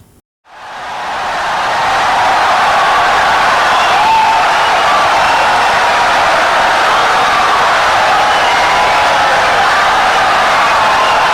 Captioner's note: wild applause and cheering for 17 seconds